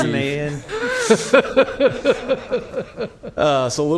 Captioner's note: laughter